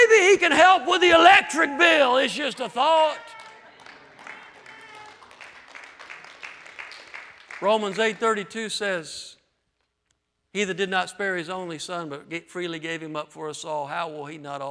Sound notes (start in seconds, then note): 3.0 applause